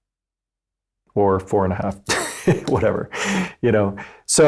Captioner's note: laughs